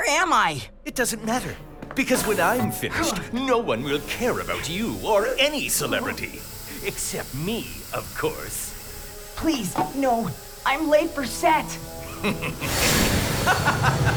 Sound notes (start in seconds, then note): 8.9 evil laughter